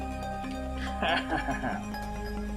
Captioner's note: laughs